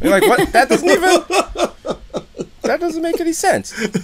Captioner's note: laughter